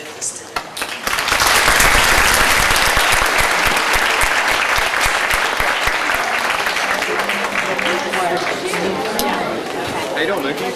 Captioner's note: applause